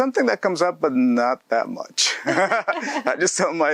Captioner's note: both laughs